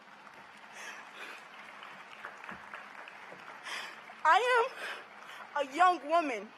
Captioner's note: cheers and applause